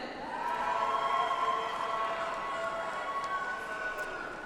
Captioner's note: audience applauds